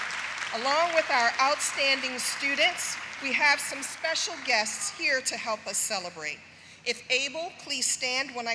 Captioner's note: applause